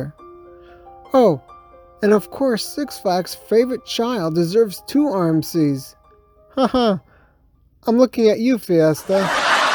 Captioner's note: laugh